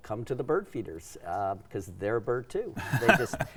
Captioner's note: laughing